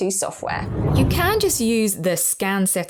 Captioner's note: video effect whooshes